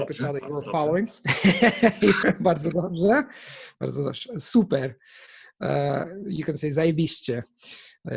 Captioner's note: in Polish; in Polish